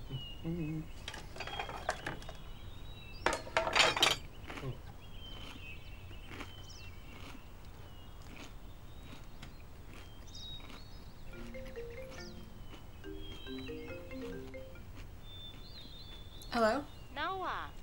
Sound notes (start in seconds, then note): 0.3 happy humming; 1.2 food hitting plate; 3.2 clank; 4.4 crunch, crunch, crunch; 11.3 phone rings